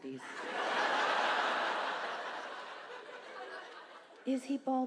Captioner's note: audience laughs